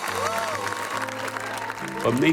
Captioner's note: crowd clapping and cheering